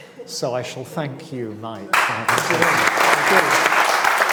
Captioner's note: all clapping